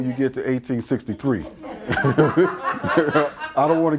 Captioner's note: laughter